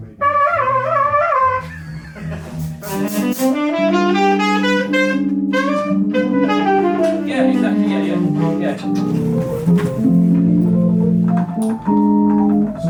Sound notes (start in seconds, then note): 0.2 trumpet trilling; 1.7 musician laughs; 3.3 bright saxophone music; 9.4 gentle keyboard music